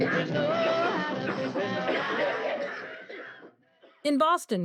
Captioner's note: coughing starts; cacophony of coughs